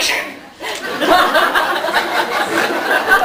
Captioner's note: laughs